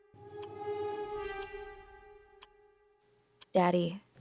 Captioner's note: clock ticking